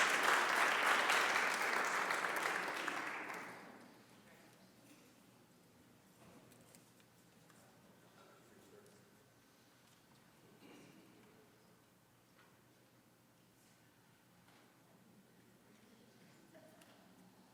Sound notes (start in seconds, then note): 0.0 applause